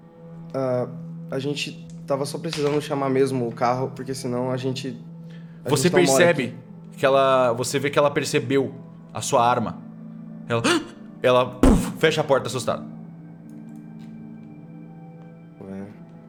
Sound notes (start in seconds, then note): 10.6 gasp; 11.6 poof